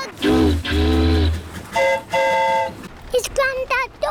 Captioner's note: train horn toots; boat horn honks